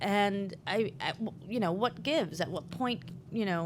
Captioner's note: none